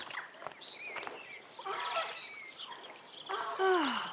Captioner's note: goose honking; sighs